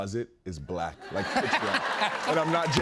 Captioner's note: laughter